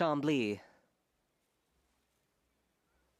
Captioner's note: speaking French